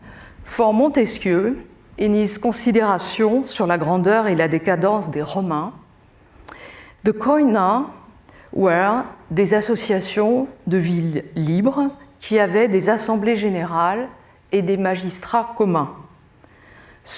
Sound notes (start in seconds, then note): 8.7 speaking french